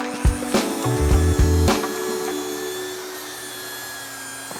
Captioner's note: buffer whirring